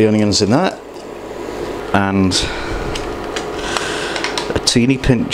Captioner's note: none